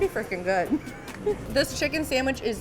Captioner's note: chuckles